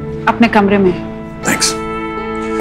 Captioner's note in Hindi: none